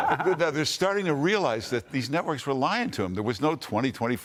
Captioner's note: laughter